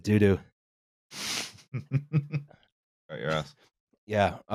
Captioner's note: chuckles